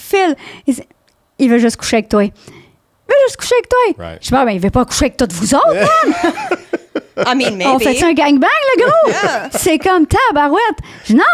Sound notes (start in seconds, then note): 0.2 in french; 5.5 laughing; 8.1 in french